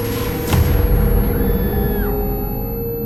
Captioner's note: Rose screaming